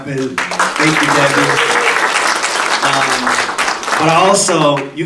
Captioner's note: audience applauding